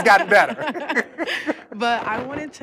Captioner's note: laughter